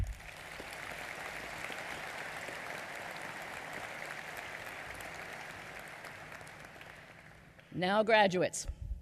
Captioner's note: applause